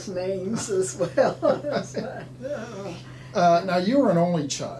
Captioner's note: laughing